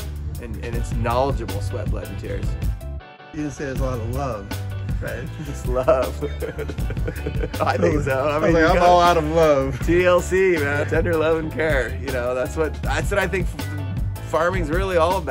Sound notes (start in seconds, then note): 5.2 laughing